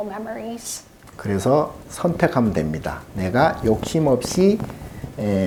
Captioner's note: speaking Korean